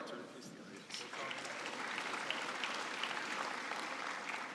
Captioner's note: applause